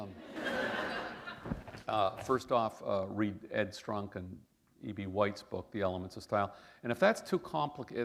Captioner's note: laughter